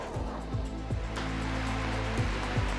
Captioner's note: applause